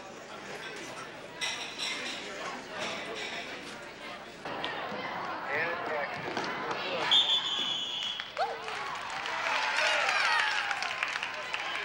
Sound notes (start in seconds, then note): 7.1 whistle blows; 9.2 crowd cheers